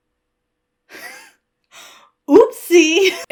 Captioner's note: wheezes